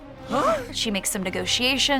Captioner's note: group gasps